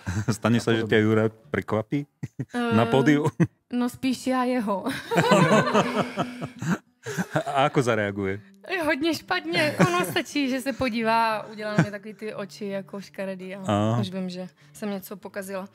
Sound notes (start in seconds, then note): 5.0 laughs